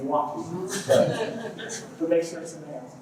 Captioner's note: laughter